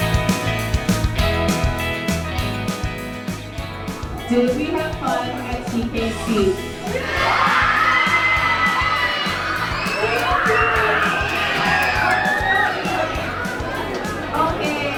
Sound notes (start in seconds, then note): 9.9 happy cheers